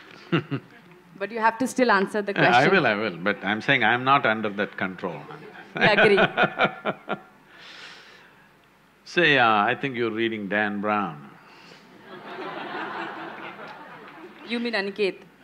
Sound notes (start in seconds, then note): 5.2 laughs; 12.0 laughter